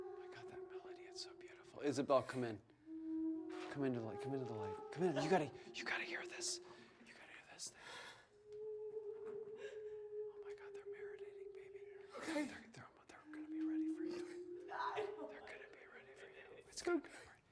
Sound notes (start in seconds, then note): 1.5 whispers